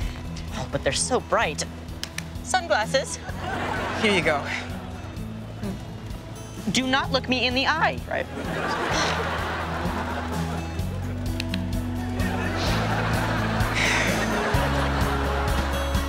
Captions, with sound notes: Oh, but they're so bright... [claps] Sunglasses. Here you go. - Do not look me in the eye! - Right. [claps] [sighing]